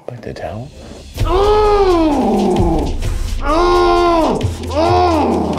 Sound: groaning

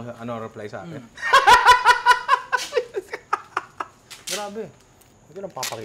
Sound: laughs

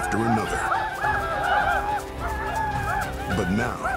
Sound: whooping

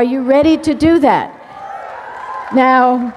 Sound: cheers, applause

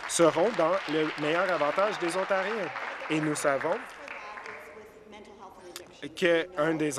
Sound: applause

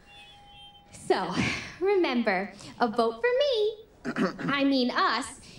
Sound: clears throat

